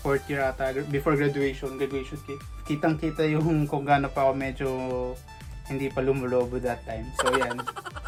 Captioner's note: laughs